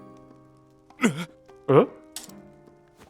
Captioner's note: gasp